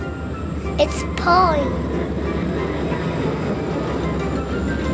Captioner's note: train whirs; bouncy music